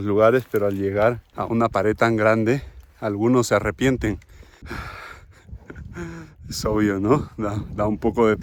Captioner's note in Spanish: jadeo